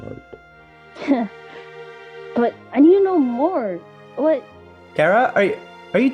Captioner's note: laughs